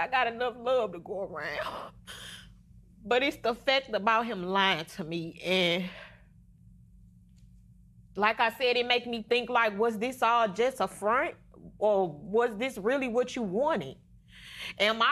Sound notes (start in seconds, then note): none